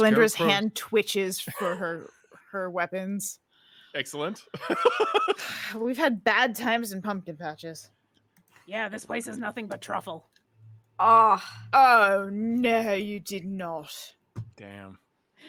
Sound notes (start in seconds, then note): 4.9 laughs